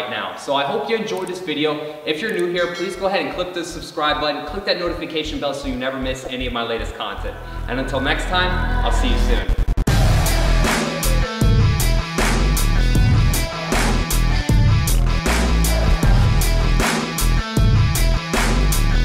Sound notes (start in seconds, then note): 10.2 electric buzzing